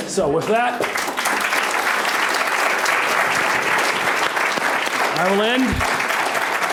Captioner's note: applause